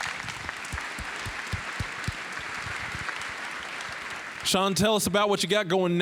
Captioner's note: applause